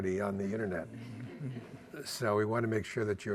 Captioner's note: audience laughing